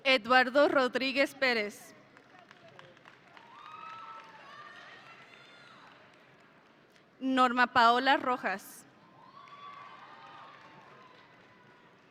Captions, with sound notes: Eduardo Rodriguez Perez. (audience cheering) Norma Paola Rojas. (audience cheering)